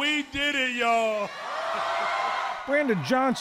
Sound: cheering and applause

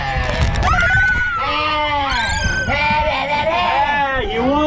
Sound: screaming continues

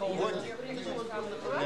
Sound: russian speech

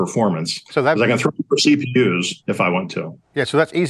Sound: audio warbles

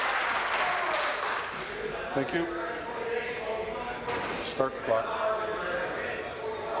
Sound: applause

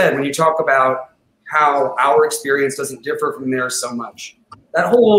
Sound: none

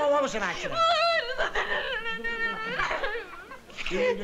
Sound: sobbing and mumbling

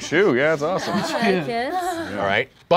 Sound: laughing

